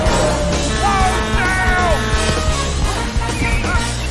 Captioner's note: horn blaring